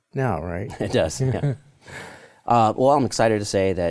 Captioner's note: both laugh